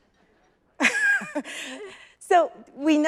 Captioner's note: chuckles